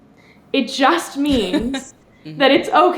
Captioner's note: laughs